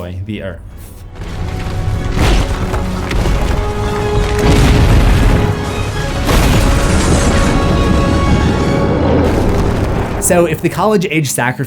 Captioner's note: rumbling